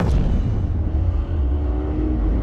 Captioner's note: engine revving